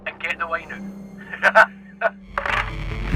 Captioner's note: laughing; tense orchestral music